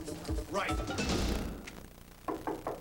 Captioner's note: knock on door